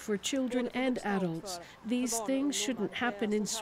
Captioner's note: speaking alternate language